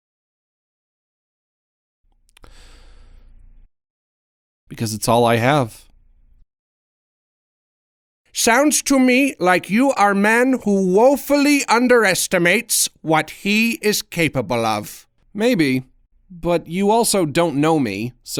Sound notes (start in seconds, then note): 2.3 inhales